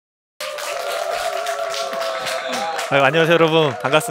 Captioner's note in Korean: 박수와 환호